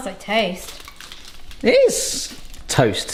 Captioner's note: foil crinkles